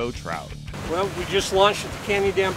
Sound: boat engine running

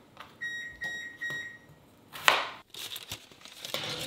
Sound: stove beeping; knife banging; pan banging on rack

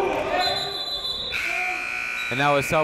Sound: whistle blowing; buzzer ringing

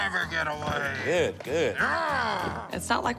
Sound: growls

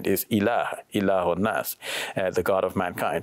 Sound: speaks in Arabic

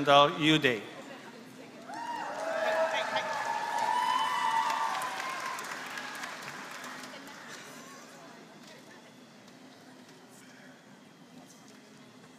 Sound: applause

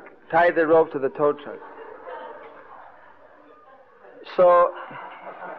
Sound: devotees laughing

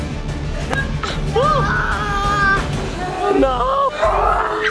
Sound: shouts

